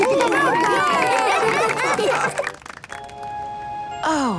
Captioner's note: cheering, applause